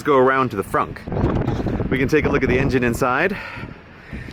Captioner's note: wind blows